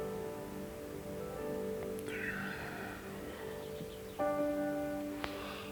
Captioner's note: breathing in and out through the nose